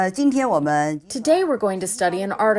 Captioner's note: speaking foreign language